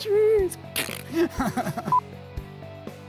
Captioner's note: blowing raspberry and laughing; monitor beeping; upbeat music